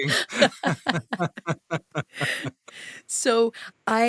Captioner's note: laugh